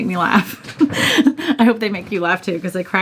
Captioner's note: chuckling